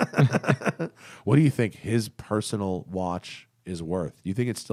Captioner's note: laughter